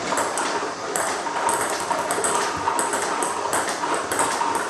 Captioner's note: ball ping pong hitting